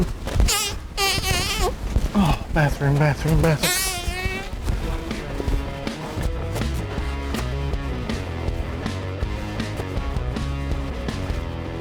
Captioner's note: fart noise